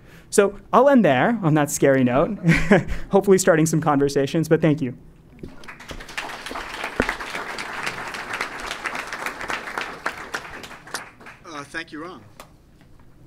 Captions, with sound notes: So, I'll end there, on that scary note. [LAUGH] Hopefully starting some conversations, but thank you. >> [APPLAUSE] >> Thank you, Ram.